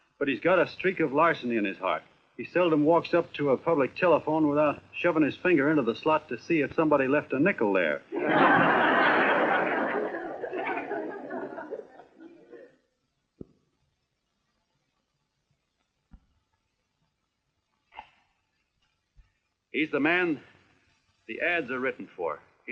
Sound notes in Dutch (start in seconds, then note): 8.1 lachend